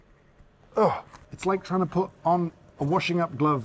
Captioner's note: grunts